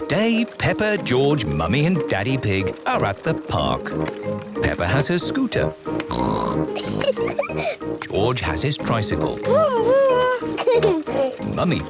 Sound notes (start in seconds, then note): 6.1 snorts, giggles; 9.1 giggles